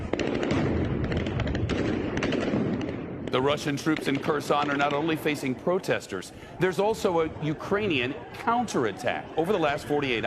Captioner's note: sound of gunfire